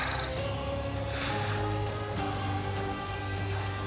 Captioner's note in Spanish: exhala